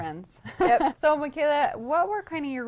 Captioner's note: laughs